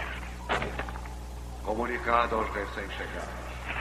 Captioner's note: man Over P.A